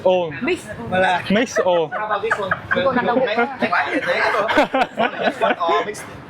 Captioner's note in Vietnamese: tiếng cười